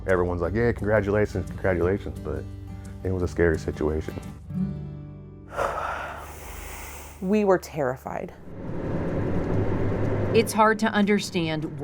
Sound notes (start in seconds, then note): 4.7 light twangy music; 5.5 exhales sharply; 8.5 car engine revving